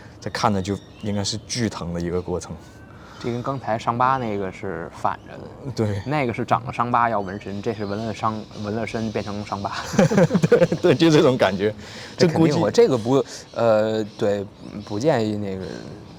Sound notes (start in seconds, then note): 9.7 both laughs; 12.2 mutters